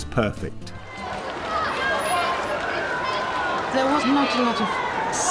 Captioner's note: applause